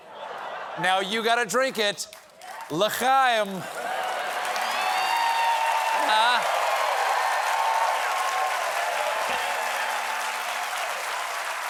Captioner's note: cheers and applause